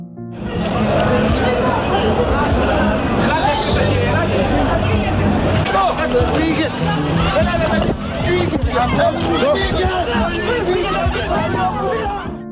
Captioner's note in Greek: φωνές από πλήθος